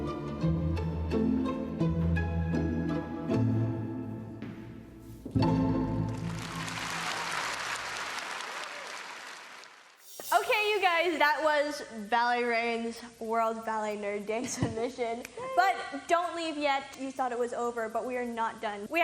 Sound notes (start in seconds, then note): 6.3 clapclapclapclapclapclapclapclapclap